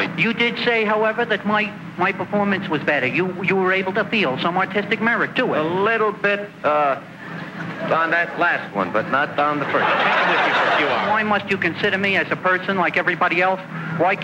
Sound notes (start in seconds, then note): 9.4 loud laughing